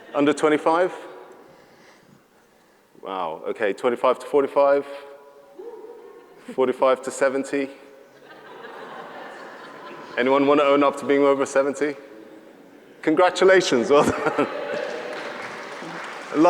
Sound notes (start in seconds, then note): 8.1 audience laughs; 14.3 audience applauds